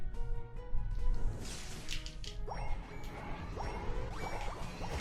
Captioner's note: fighting sounds